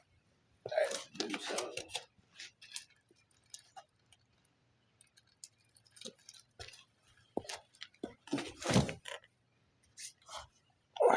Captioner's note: TV Noise